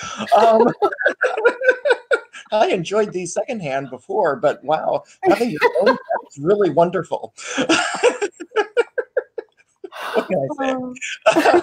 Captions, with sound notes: (laughing) I enjoyed the second hand before but wow, that's really wonderful. (laughing) What can I say?